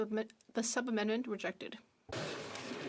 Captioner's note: speaking French